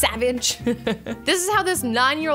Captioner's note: laughs